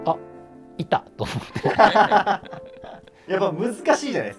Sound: laughing

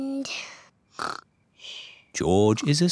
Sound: snores

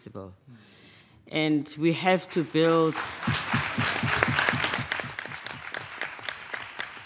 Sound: audience applauding

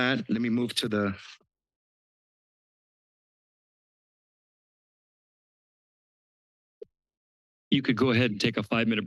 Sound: silence

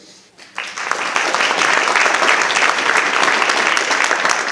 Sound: audience applauding

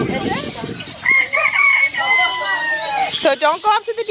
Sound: rooster crows

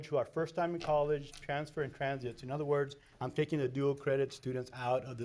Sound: none

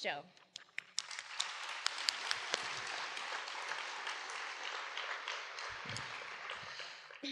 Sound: applause

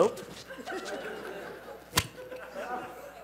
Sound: laughter

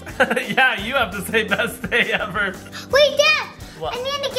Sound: chuckles

